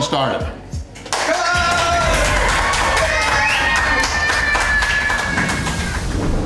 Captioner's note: crowd clapping and cheering